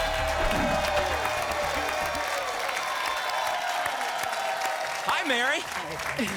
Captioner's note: applause and cheering